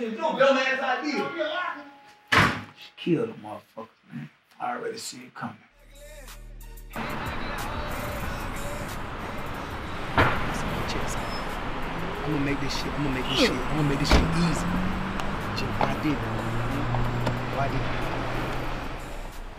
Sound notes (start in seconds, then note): 0.0 speaking away from mic; 6.0 cars rumbling in distance; 6.0 upbeat hiphop music; 12.0 exclaims in appreciation